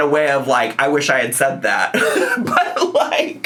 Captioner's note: laughs